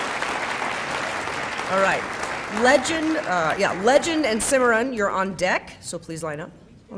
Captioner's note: applause